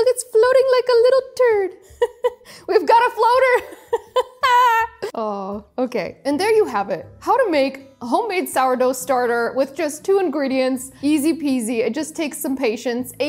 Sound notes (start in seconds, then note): 3.8 laughs